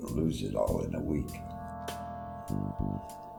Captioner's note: none